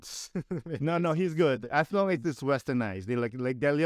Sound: laughter

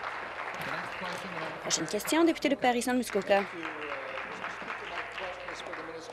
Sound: applause

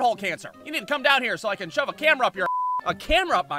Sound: beep

